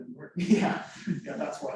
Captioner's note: laughs